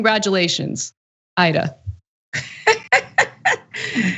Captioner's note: laugh